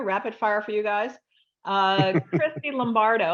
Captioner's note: laughs